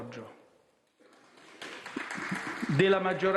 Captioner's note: mini applause